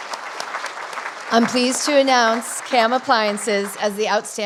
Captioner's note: applause